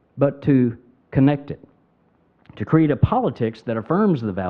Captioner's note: none